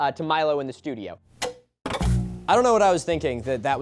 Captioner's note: TV flicking on/off